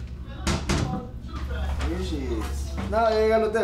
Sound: conversation in Spanish

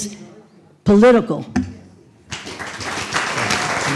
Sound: applause

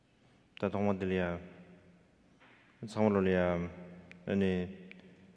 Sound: speaking in foreign language

